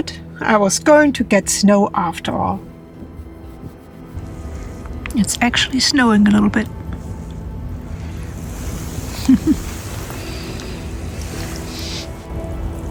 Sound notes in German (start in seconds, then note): 8.8 Lacht